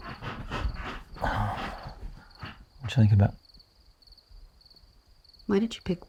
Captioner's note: exhales